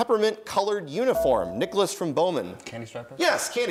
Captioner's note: dinging